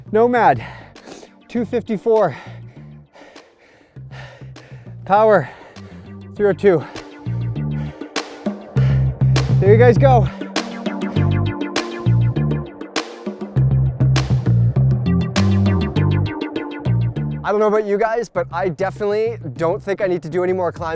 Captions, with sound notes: Nomad, 2:54. (breathing heavily) Power, 302. (upbeat music) There you guys go. (upbeat music) I don't know about you guys, but I definitely don't think I need to do any more climbing